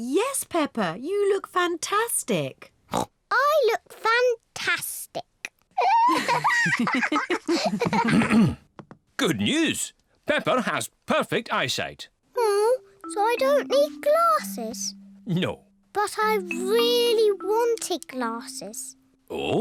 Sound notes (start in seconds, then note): 2.9 snorts; 5.8 both laugh